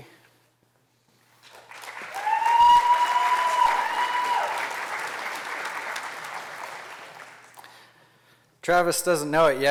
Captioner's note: applause